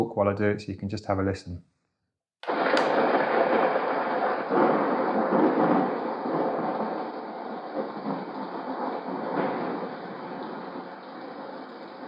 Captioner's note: white noise sounds